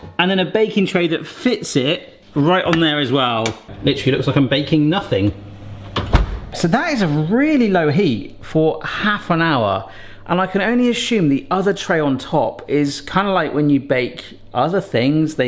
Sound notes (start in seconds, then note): none